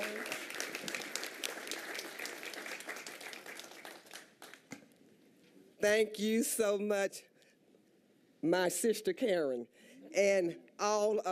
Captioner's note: applause